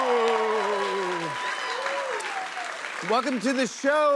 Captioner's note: cheers and applause